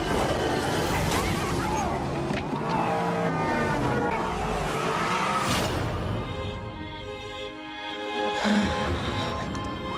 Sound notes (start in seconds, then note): 1.4 car engine wailing; 6.3 lighthearted music